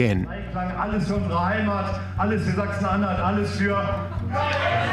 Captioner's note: speaking German